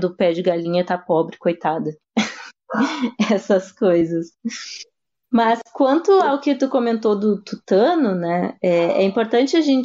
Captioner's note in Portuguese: risos